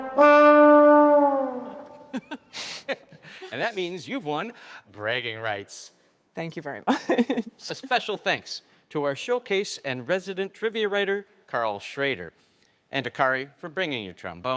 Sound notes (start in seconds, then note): 2.0 all laughing